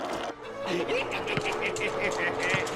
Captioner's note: cackling